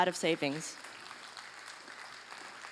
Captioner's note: applause